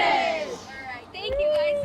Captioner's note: crowd